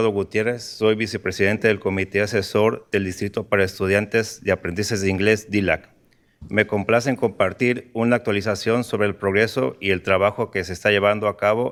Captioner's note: speaking in spanish